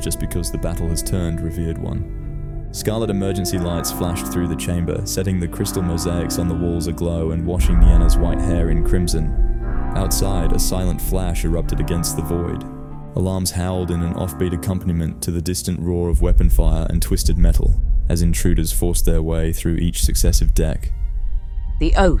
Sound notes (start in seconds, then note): 7.6 emergency klaxons distant